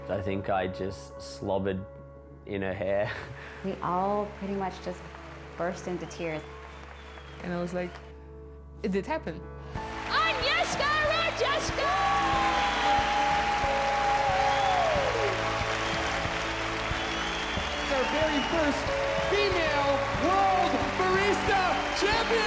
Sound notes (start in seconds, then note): 14.2 applause; 14.2 cheering